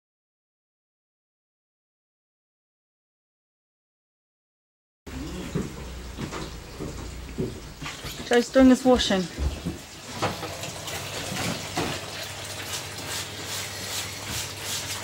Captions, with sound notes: (FOOTSTEPS CLIMB STAIRS) - Joe's doing his washing. (WATER SPLASHES) (BRUSH SCRAPES)